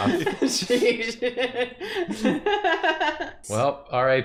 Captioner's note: laughing